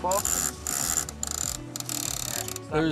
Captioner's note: rope cranking